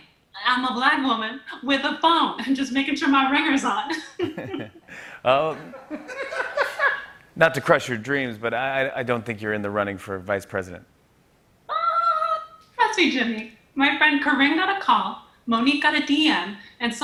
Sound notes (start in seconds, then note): 3.9 laughter